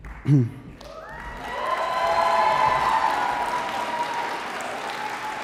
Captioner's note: audience applause